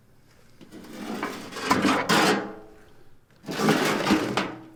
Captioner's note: metal scraping